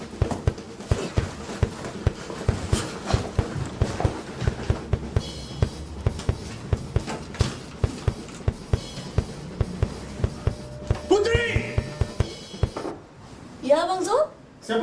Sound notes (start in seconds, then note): 3.7 hurried footsteps